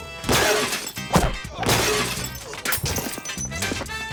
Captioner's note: glass shattering; bottle thudding; upbeat music